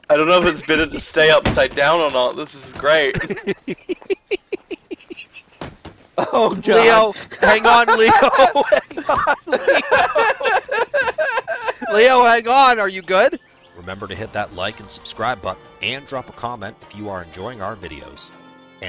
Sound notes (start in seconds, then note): 3.0 laughter; 6.1 hysterical laughter